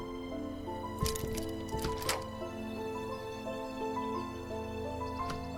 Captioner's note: door knob jiggling